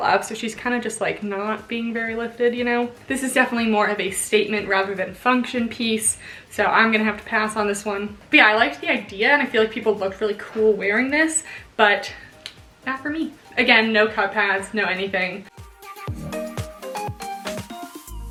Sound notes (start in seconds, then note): 12.4 clicks tongue; 15.5 upbeat music